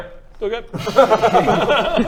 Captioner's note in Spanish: risas